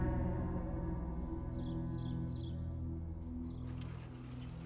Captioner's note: birds chirp